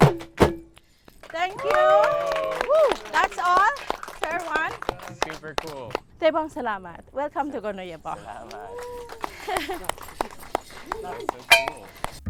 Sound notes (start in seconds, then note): 1.0 applauds; 8.0 applauds